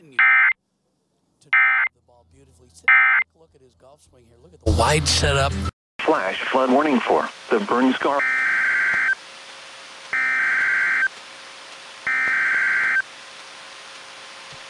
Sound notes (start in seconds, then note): 8.1 SAME header tones